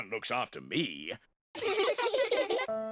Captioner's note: children giggle